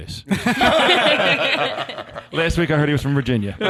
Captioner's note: all laughing